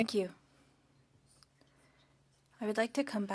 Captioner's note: speaking French